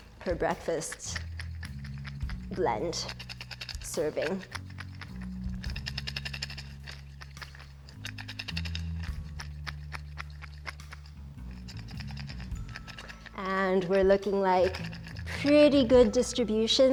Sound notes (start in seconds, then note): 5.2 mixture tapping; 5.2 soft music